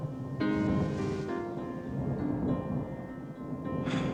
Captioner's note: thunder